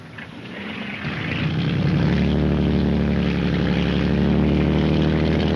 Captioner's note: boat motor revs